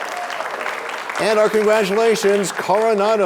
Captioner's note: applause